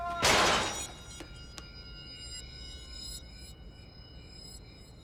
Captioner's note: loud crash